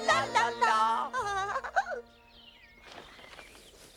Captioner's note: Pigwig laughs